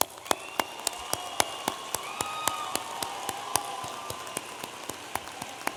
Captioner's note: audience applauding and cheering